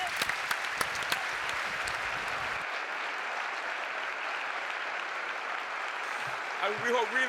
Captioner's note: applause